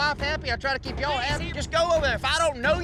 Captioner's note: angrily shouts